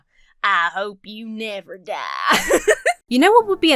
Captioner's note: laughs